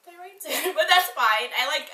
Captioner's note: laughs